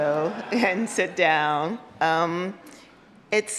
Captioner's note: audience laughs